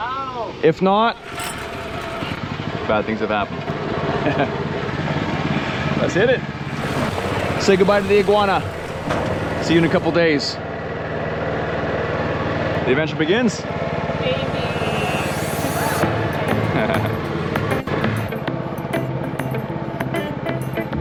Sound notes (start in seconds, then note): 11.7 boat engine rumbling; 15.6 upbeat music; 16.7 laughs